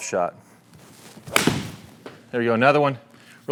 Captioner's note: club smacking